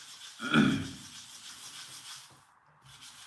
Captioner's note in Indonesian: berdehem